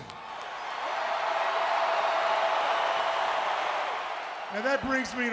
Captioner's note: crowd cheering